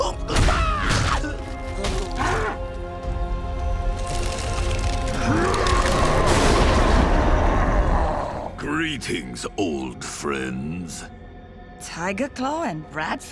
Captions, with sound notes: [screaming] [grunting] [screaming] Greetings, old friends. Tiger Claw and Bradford?